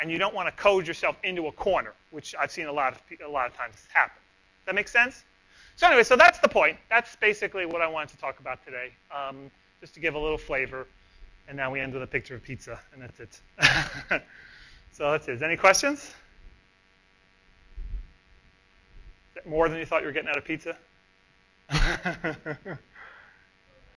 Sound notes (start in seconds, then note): 13.6 laughs; 17.7 pause; 21.7 laughs